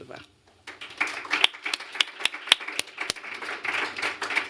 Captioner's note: applause